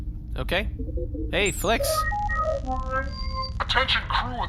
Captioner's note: distorted voice